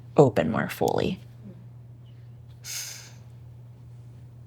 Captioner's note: sighs